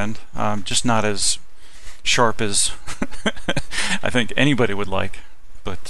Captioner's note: laughing